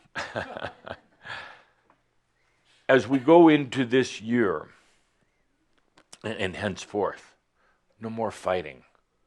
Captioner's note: Adamus chuckles